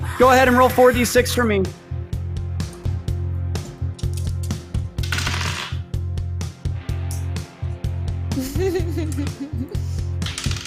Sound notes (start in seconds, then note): 5.0 dice clatter; 8.3 giggles; 10.2 dice clatter